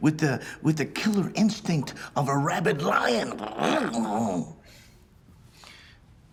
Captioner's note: growling